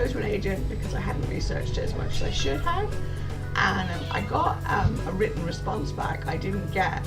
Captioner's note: cat meows